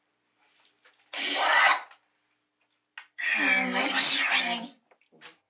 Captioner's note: machine hisses